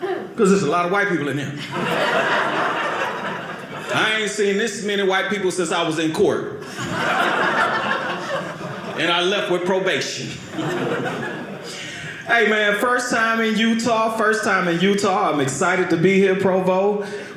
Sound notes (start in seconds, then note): 1.5 audience laughing; 6.6 audience laughing